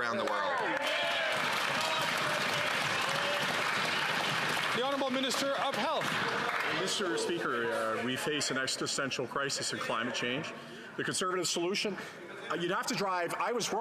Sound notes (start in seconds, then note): 7.8 some Applause